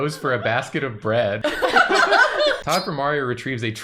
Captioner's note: laughter